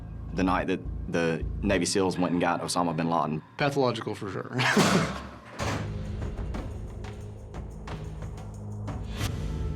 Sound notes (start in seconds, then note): 4.5 laughs; 4.6 foreboding music playing